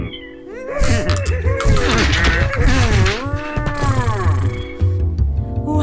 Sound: half-bull-half-horse noises

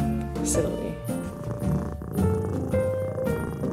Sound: purrs

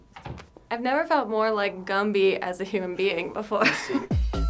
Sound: chuckles; upbeat electronic music

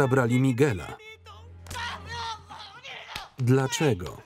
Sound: yelling in Spanish

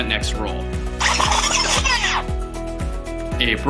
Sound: record scratch sound effect

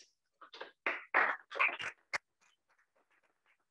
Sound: applause

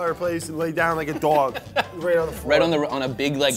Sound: laughs

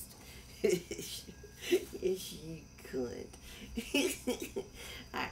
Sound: giggles

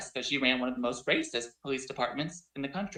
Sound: audio distortion

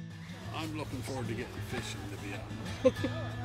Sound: laughs

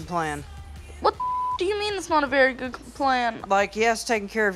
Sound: beep

